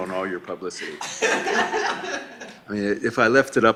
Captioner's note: laughing